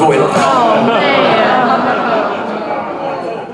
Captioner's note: audience groans